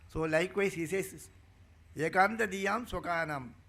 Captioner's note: speaking in Sanskrit